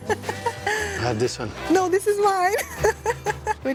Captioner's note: laughs